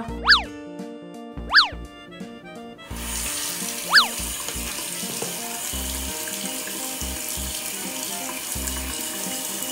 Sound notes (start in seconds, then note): 0.3 light music; 2.9 water gushing